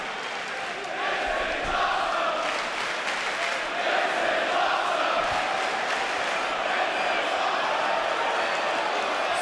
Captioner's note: fans chanting